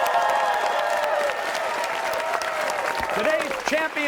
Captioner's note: cheers and applause